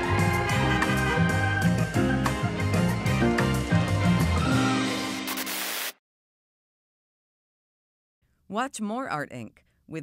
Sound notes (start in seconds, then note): 0.2 car horn honks; 5.3 static hissing